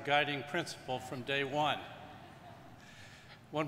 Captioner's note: audience laughing